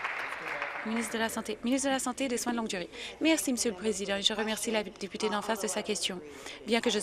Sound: applause

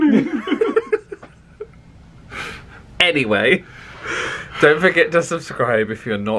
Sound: laughs

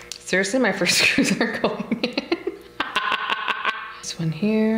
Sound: laughs

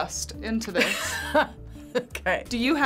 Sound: laughs

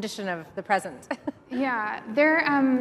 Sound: chuckles

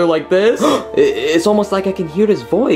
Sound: Luigi gasping

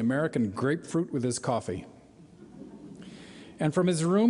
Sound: light laughter

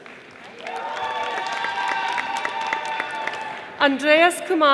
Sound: audience applauding

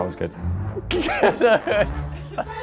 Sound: laughs

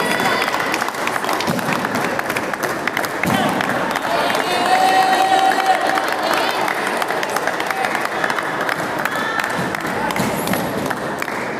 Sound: applause

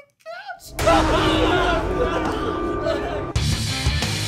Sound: yelling

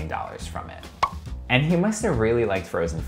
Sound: pop

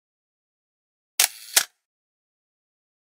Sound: sound of camera shutter

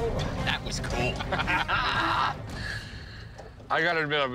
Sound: laughter

